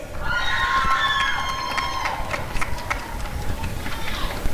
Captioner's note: applause and cheering